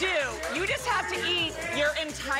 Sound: cheering

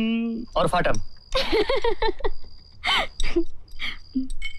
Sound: laughs

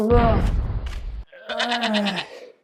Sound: argh

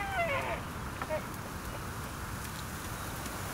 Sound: elk bugle; waves

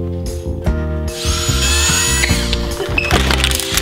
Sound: drilling; pipes clattering

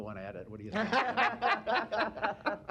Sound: laughter

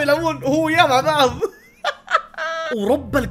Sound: laughs

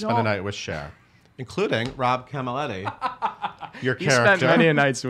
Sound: laughing

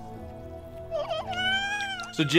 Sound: squeaks and wails

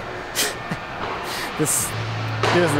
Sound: laughing

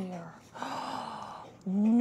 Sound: gasps

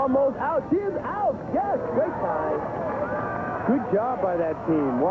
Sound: crowd cheering

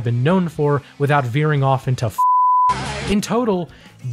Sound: beep

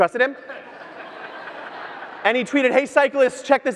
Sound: audience laughs

